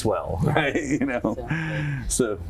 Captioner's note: laugh